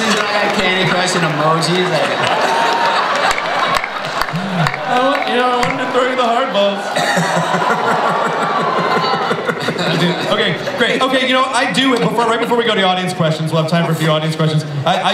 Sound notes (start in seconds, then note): 7.3 people laughing